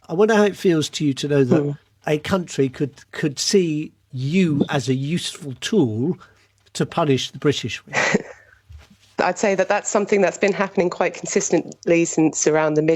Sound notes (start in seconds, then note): 7.8 chuckles